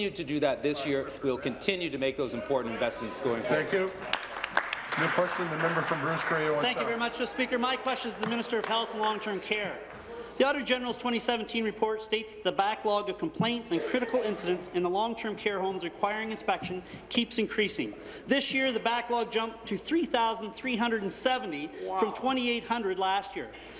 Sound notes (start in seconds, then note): 8.9 applause